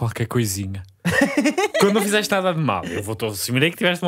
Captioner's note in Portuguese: risos